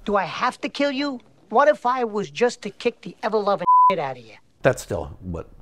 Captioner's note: beep